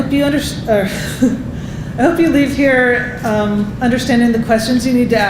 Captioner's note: laughing